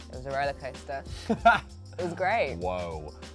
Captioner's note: laughs